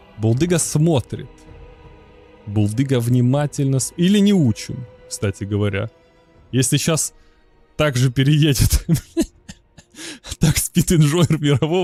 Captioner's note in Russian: смех